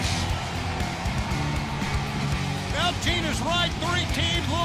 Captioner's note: crowd cheering